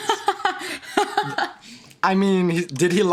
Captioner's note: laughing